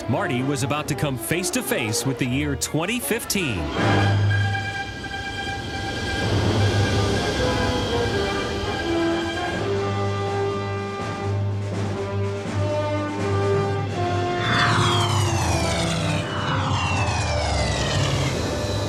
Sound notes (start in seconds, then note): 3.9 dramatic music; 14.3 motorcycle whirring